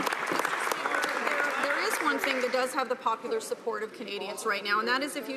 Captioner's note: some Applause